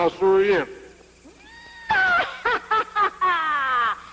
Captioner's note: squeals